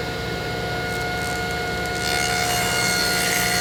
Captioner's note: blade buzzing